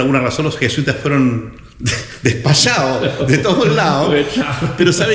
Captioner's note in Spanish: risas